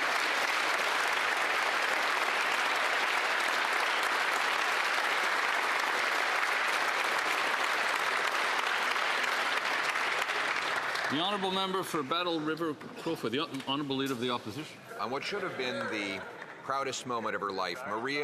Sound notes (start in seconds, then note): 8.5 some Applause